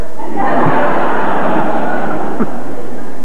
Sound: laughter

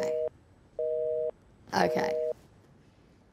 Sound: dial tone beeps

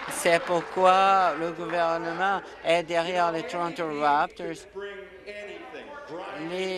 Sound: applause

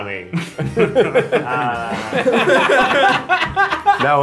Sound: more laughter from all

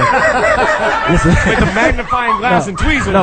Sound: all laugh

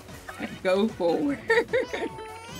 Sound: laughs

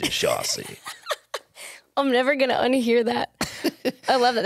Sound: laughs; laughing

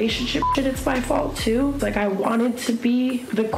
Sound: beep

